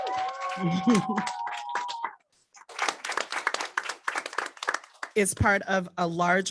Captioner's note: audience clapping